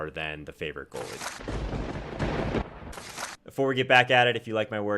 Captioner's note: lightning striking